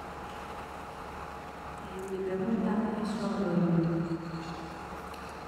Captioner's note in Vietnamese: Tiếng Tây Ban Nha